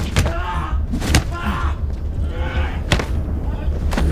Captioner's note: thudding; man screaming